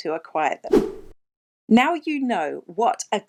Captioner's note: air whooshing